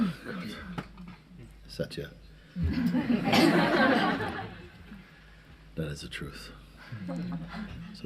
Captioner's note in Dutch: gelach